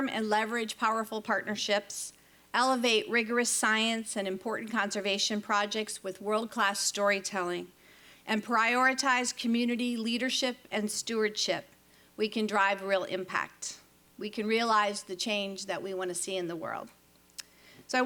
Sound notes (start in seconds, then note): none